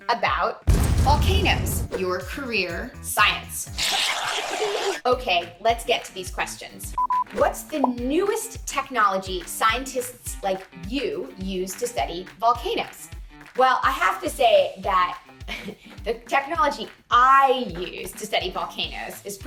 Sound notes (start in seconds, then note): 0.7 volcano booming; 4.0 bubble swishing; 4.0 children laughing; 7.0 screen beeping; 15.4 laughs